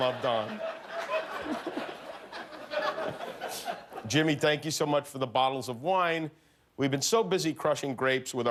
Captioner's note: laughter